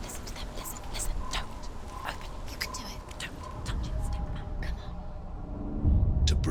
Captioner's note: whispering